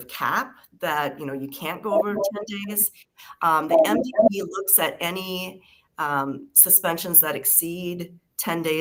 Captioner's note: feedback